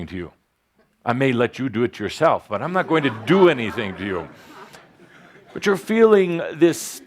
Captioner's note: laughter